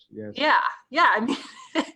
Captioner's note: laughs